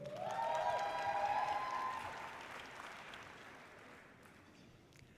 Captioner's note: audience cheering loudly